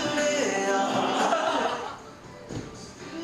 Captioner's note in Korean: 멤버들 웃음소리